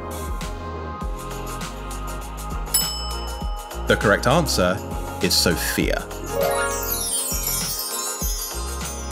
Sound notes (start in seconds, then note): 2.7 bell rings; 6.2 bright chimes